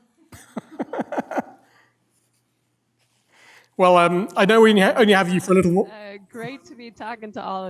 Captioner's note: laughs